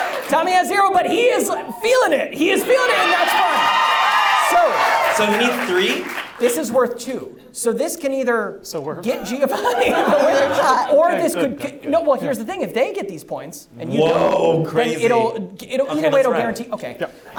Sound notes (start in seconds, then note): 2.6 audience cheers